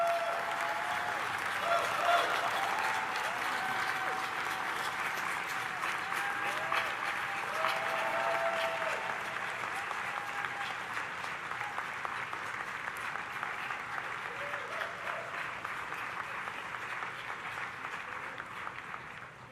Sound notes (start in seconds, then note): 7.8 audience applauding; 7.8 audience cheering